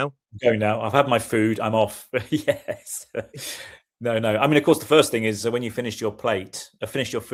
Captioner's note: laughter